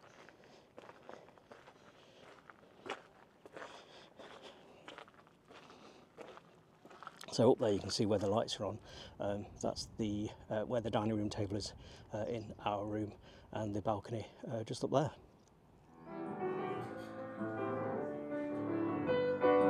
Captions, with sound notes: (footsteps crunching) So up there you can see where the lights are on. That's where the dining room table is in our room and the balcony just up there. (gentle music)